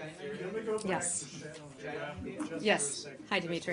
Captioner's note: laughter